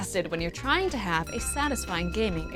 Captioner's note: ding